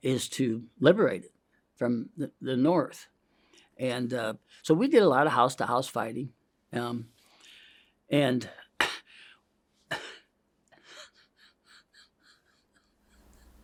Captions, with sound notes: is to liberate it from the north. And so, we did a lot of house-to-house fighting (inhales) and (coughs)... (weeps)